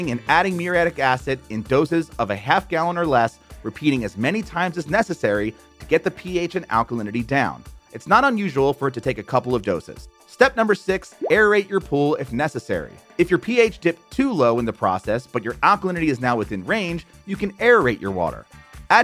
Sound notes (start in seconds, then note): 11.1 graphics popping